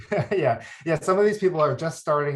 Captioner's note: chuckles